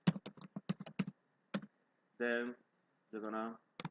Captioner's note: typing